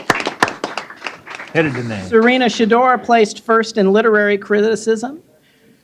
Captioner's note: applause